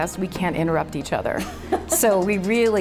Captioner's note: laughing